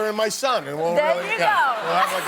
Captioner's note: cheers and applause